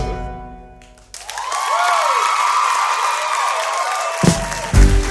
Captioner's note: applause